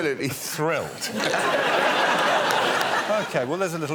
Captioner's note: laughter